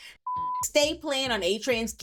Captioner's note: beep